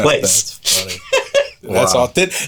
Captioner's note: laughing